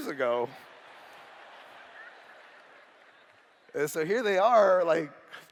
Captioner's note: laughter